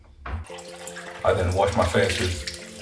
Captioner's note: water splashing